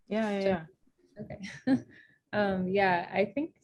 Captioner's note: chuckles